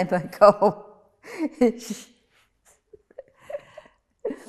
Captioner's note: laughing